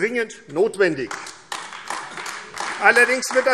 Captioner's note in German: Beifall AfD